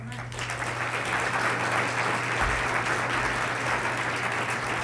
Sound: applause

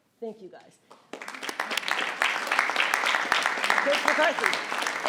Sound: audience clapping

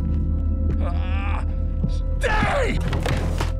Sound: grunting

